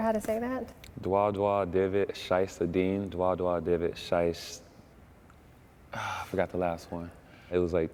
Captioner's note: speaking in foreign language